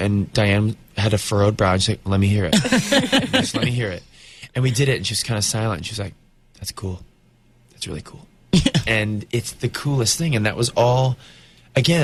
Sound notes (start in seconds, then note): 2.5 Uzo and interviewer laugh; 8.6 Uzo laughs